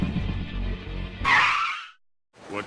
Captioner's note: tumbling Sound; car tire screech